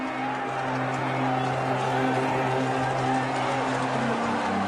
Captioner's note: crowd noises